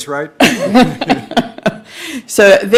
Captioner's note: laughing